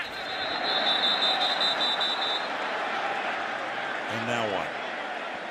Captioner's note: whistles